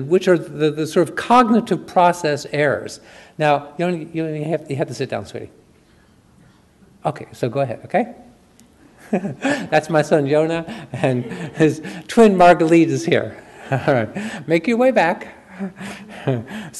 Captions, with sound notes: which are the cognitive process errors. Now, you have to sit down, sweetie. Okay, so go ahead, okay. (chuckles) That's my son, Yonah, and his twin, Margalit, is here. All right, make your way back.